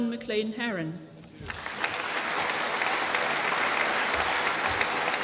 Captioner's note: applause